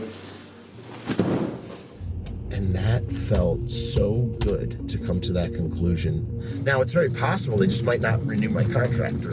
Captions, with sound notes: [Aggressive pillow impact] And that felt so good to come to that conclusion. Now it's very possible it just might not renew my contract.